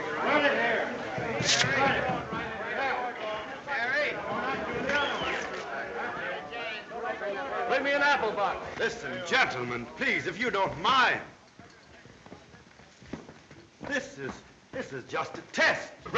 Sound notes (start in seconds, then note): 4.9 man whistles